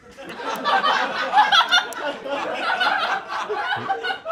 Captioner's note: crew laughs